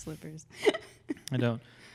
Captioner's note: laughs